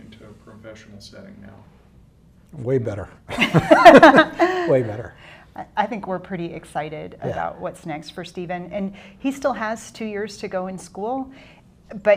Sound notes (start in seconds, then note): 3.3 laughter